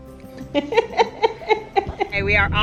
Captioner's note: laughs